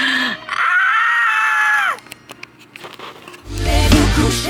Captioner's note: screaming; upbeat music